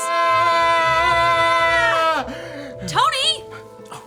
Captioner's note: both yelling